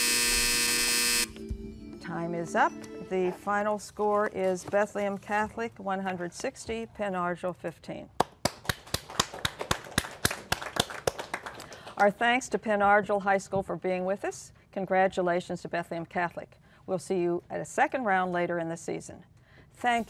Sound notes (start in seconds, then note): 0.0 buzzer; 6.6 applause